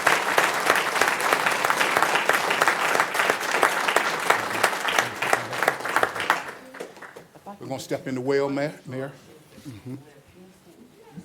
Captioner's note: applause